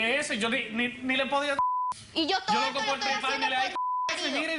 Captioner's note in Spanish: Bip